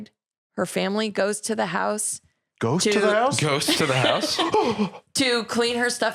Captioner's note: gasps